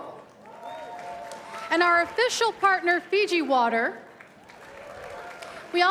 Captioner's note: cheers and applause